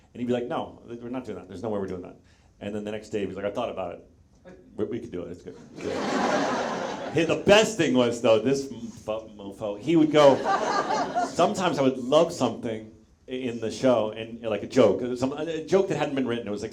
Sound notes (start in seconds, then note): 5.6 audience laughs